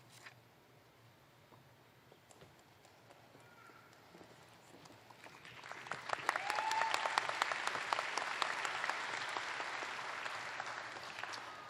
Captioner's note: applause